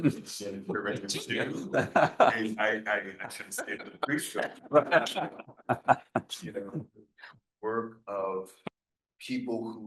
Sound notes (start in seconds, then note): 0.7 laughing